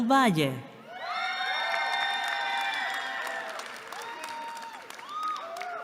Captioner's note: cheering